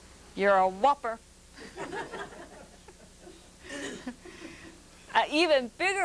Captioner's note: laughter